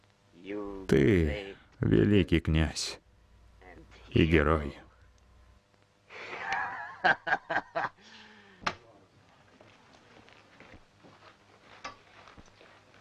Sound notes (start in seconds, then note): 6.2 laughs